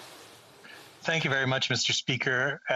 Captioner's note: speaking French